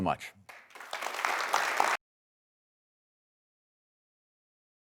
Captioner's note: audience clapping